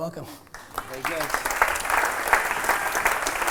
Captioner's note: applause